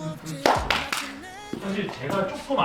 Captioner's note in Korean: 셀프 박수